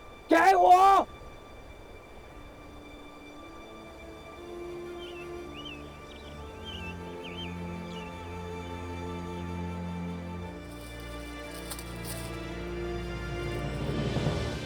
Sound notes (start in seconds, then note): 0.1 Mandarin; 5.0 birds chirping; 8.1 emotional music